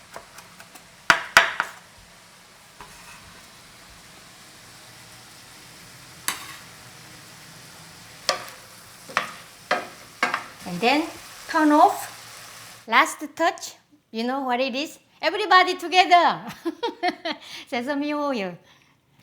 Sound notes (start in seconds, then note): 16.8 laughs